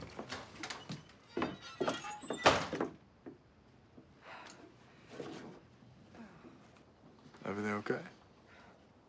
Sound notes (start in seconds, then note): 0.3 door bursts open; 1.7 footsteps; 4.5 sighs